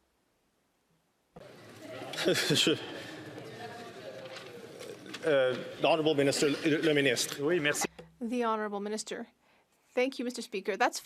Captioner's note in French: rires